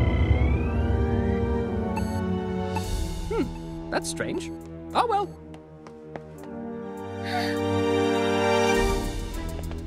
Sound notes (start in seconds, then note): 7.2 scared gasp